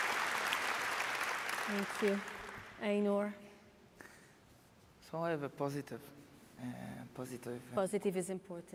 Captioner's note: applause